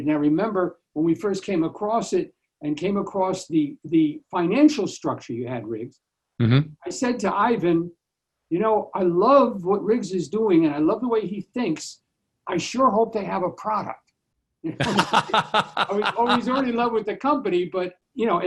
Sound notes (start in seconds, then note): 14.7 laughing